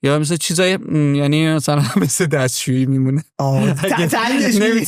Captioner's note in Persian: خنده